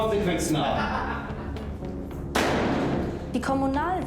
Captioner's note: JAN laughing